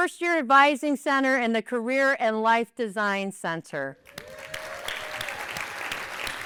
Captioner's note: applause